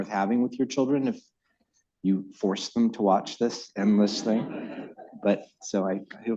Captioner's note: laughter